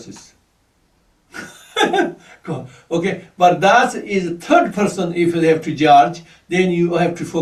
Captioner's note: laughs